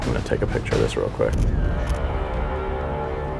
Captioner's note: camera clicks; suspenseful music playing